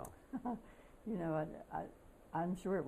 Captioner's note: laughter